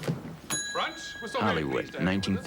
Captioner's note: bell dings